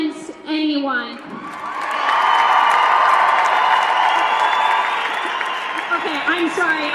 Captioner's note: cheers and applause